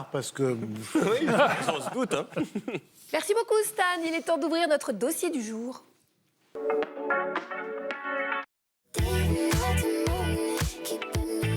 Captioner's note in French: rires; chant